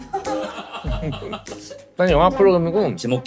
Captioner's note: laughing